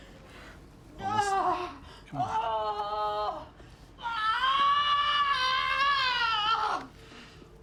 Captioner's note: screaming